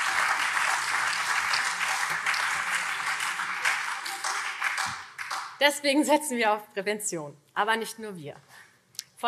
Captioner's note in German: Beifall SPD und CDU